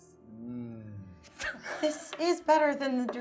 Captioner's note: laughing